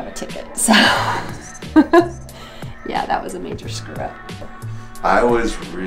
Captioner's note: laughs